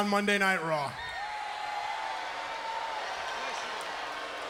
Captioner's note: crowd cheering; crowd yelling